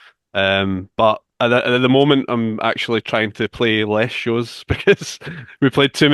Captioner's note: chuckles